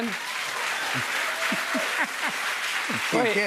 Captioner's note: cheers and applause